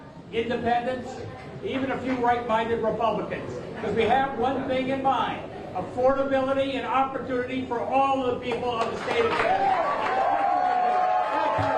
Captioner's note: applause